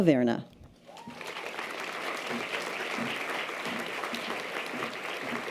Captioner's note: audience applause